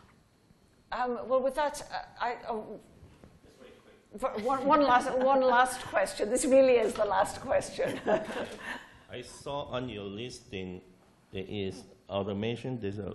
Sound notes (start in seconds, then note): 7.8 laughing